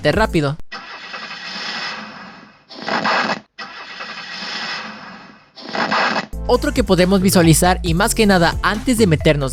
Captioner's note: sound of Interference